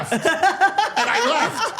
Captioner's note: Steph and Elyse laughing